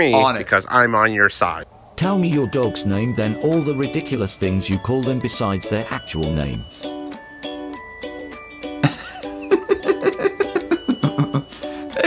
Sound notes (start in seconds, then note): 2.0 robotic Voice; 6.9 laughing; 6.9 upbeat music